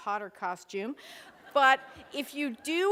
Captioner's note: laughter